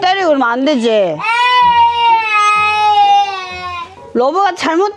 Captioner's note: an outburst of sorrow